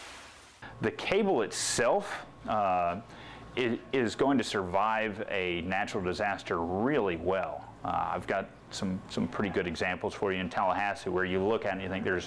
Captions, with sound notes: HERMINE HIT THE PANHANDLE LAST YEAR. [SIZZLING SOUND] THE CABLE ITSELF IS GOING TO SURVIVE A NATURAL DISASTER REALLY WELL. I'VE GOT SOME PRETTY GOOD EXAMPLES FOR YOU.